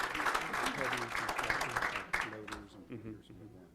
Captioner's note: applause